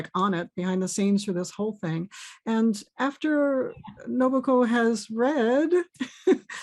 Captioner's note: chuckles